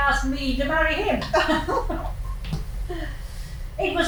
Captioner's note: laughter